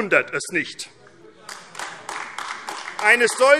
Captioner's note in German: Beifall AfD